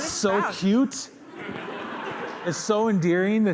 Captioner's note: laughter